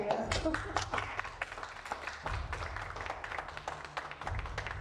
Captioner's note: audience applauding